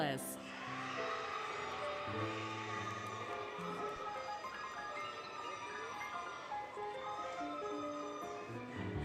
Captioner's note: applause, Cheering, Music